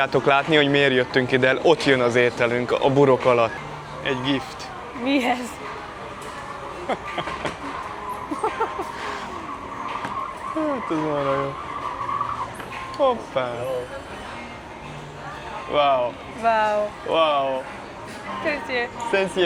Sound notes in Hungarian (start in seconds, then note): 8.2 nevetés